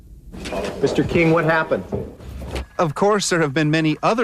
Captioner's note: cameras clicking